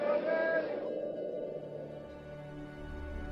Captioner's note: crowd chattering